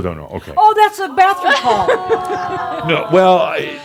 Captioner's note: audience shouts “Ohh!”